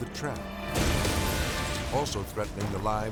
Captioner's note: explosion blasting